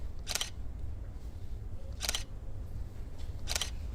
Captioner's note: shutter snaps